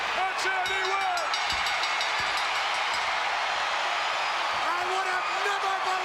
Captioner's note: bell rings